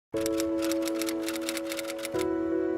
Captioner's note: typing